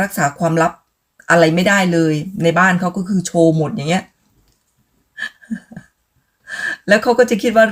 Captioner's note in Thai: เสียงหัวเราะ